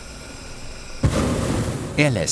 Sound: droning, whirring

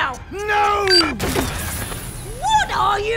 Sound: missiles fire

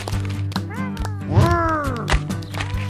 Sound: applause

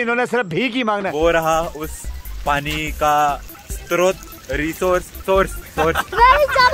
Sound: fumbles

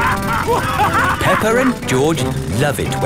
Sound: both laughing; drilling

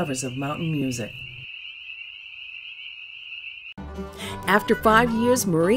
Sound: crickets chirping

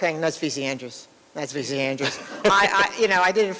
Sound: laughter

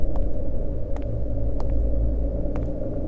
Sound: footsteps approaching

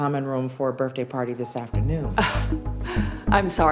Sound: scoffs

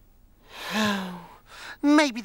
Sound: exhales

